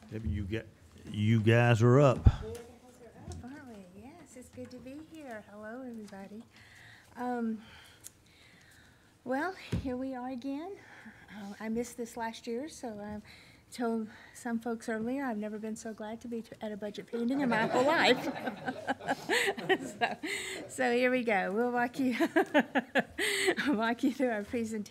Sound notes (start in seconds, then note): 17.4 audience laughing